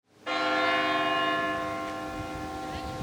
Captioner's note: bell rings